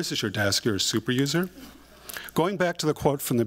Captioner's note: laughter